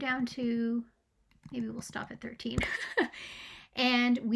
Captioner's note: laughing